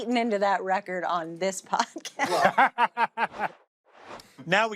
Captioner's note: laughter